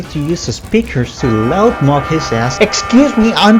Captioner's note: loud blaring